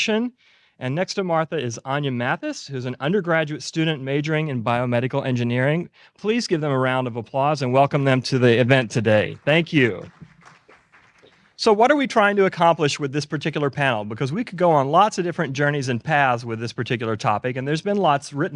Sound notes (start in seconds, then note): 8.9 applause